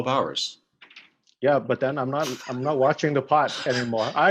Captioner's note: chuckles